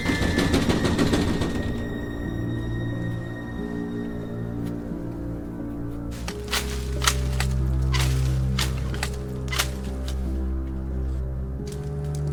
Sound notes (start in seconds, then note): 2.7 eerie dramatic music continues; 6.1 shear snipping; 6.3 leaves rustling